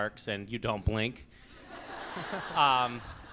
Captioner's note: laughs